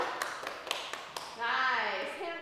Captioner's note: group cheering